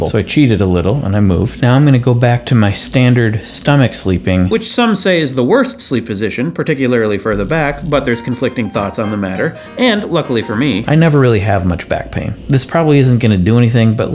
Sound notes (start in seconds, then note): none